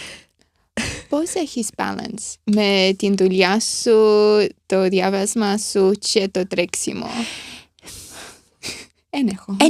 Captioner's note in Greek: χαχανίζει